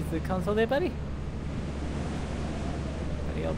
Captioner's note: internal screaming and panic